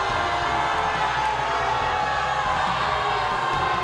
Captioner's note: crowd boos